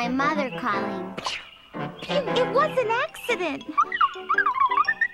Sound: coughs

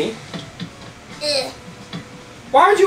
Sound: assistant grunts

